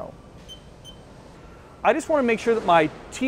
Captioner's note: beeping